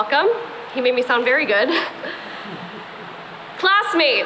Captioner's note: chuckles